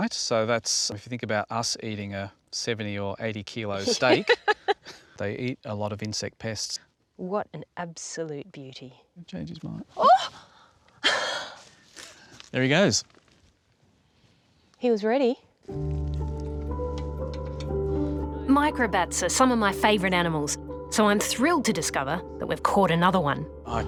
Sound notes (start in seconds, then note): 3.8 laughs; 10.8 gasps